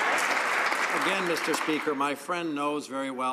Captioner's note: some Applause